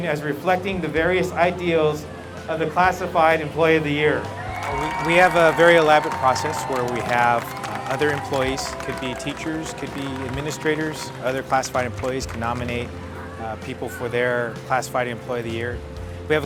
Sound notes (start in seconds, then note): 4.4 audience cheers